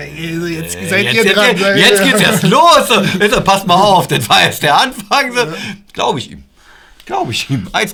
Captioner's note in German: Lachen